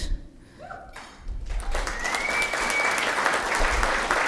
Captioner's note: applause